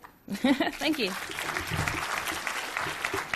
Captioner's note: crowd applauds